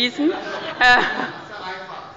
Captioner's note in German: Zurufe